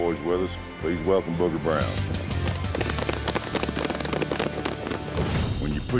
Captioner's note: all clapping